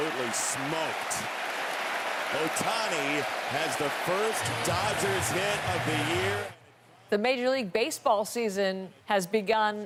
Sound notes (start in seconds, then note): 0.0 applause